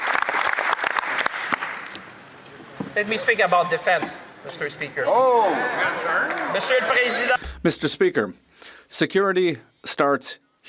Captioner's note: some Applause